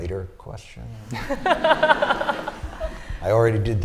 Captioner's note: laughter